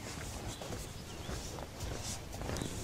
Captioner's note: birds chirping